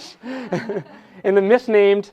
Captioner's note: laughter